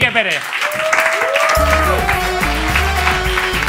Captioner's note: applause